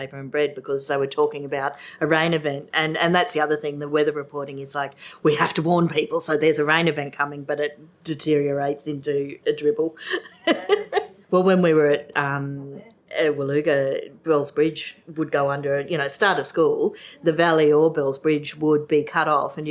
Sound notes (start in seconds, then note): 10.1 laughs